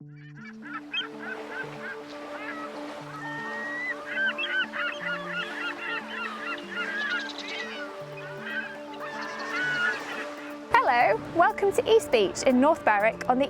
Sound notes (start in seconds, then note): 0.0 seagulls cawing; 0.8 waves swishing